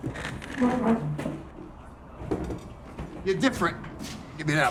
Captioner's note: chair squeaking